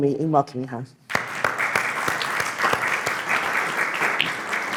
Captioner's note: clapping